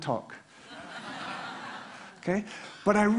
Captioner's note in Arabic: ضحك